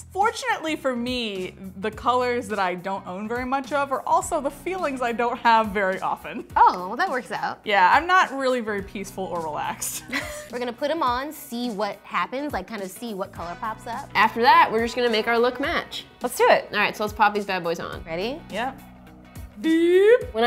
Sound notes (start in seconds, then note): 10.1 laughs